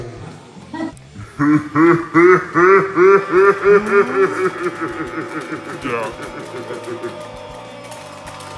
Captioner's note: horrific laughter